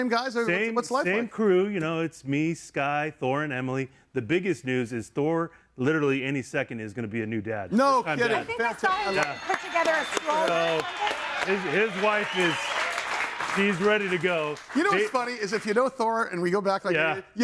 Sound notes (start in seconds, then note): 12.4 audience cheers